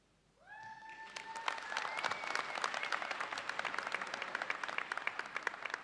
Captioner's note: audience cheers and applauds